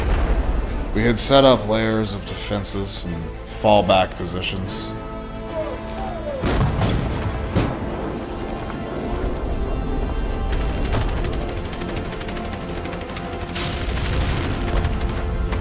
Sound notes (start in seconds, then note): 5.6 sounds of battle; 10.6 machine gun